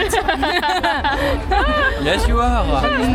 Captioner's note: laugh